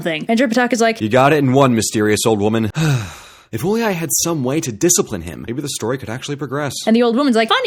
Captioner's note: sigh